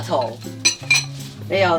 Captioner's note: bowl clanging